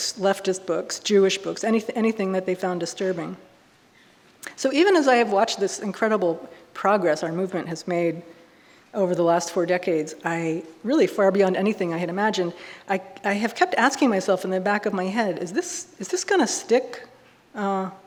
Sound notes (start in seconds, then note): none